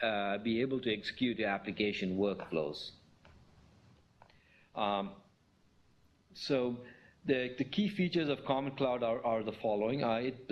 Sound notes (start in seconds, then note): 3.0 pause